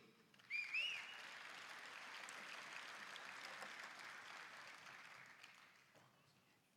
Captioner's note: applause